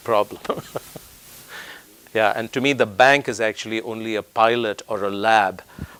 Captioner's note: laugh